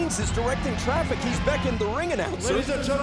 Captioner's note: crowd chatter